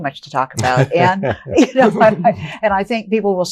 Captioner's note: laughing